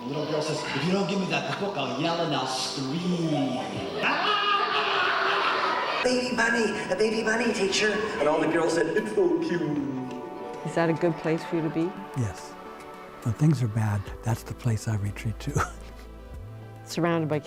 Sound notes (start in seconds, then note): 3.9 laughter